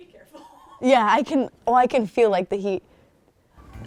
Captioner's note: laughing